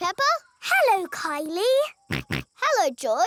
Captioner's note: snorts